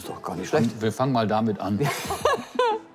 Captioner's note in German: Lachen